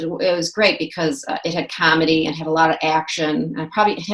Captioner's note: none